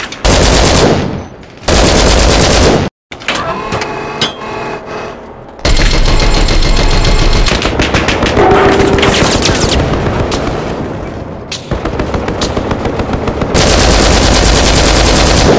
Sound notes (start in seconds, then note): 1.6 LMG fire; 3.2 turret moving; 5.6 50 Cal firing; 13.5 LMG fire